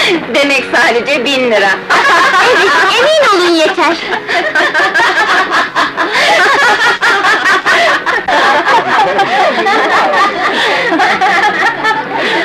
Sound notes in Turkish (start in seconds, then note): 1.9 Kahkahalar; 5.0 Kahkahalar; 10.3 Kahkahalar devam ediyor